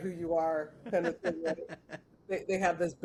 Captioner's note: laughs